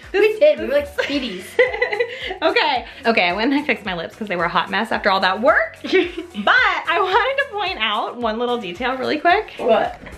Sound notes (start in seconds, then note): 1.0 laughs